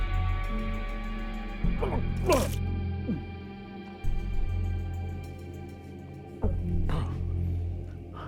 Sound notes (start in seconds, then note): 1.8 vomits